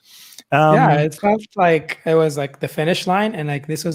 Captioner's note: murmurs